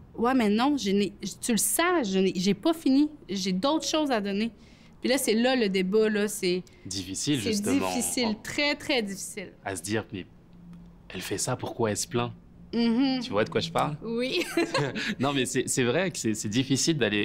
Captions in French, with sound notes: je n'ai... Tu le sens, j'ai pas fini, j'ai d'autres choses à donner. Et là, c'est là le débat. C'est... - Difficile, justement. - C'est difficile, très, très difficile. - A se dire... Mais elle fait ça, pourquoi elle se plaint? Tu vois de quoi je parle? - Oui! (rires) Non, mais c'est vrai que c'est difficile d'aller...